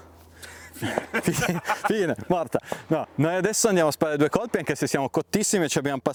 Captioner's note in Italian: risate